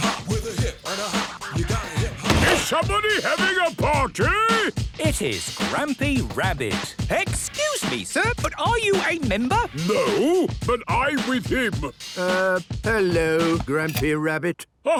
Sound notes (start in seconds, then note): 2.4 shouts; 13.8 hip hop music ends